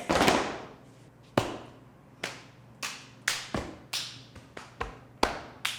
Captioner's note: hands smacking; feet thudding